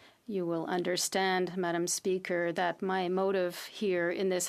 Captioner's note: speaking French